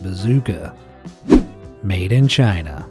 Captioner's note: image whooshing